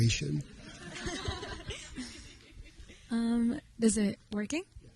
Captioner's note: audience laughing